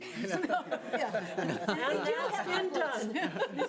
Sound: all laughing

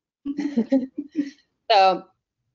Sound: laughing

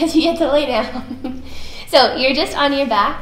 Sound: laughs

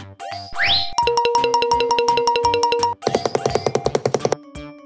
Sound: silly sound effects

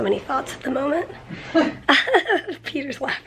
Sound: both chuckling

